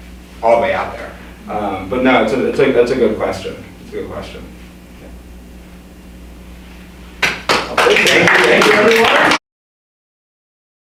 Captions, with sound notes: all the way out there. But now, that's a good question. Good question. [Applause] Thank you everyone.